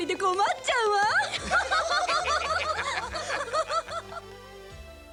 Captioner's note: laughter